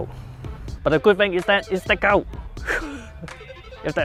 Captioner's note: laughs